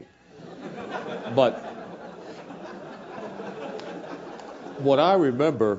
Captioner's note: laugh